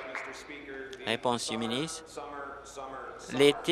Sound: applause

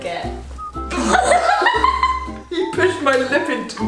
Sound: spits; laughs

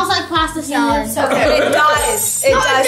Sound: laughing

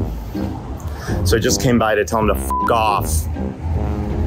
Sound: beep

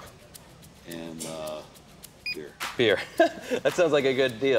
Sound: chuckles

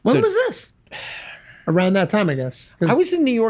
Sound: Glenn sighs

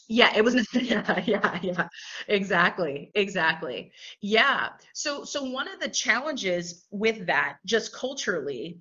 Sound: laughter

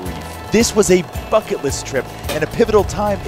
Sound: champagne cork popping

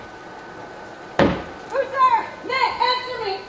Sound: wind lightly blowing; staff hits floor

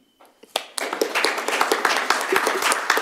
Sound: applause

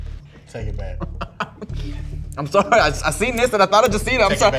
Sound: laughs

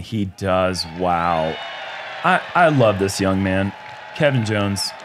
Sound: crowd cheering

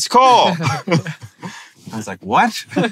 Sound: they chuckle

